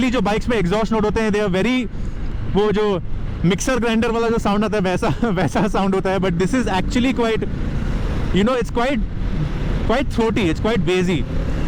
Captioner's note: laughs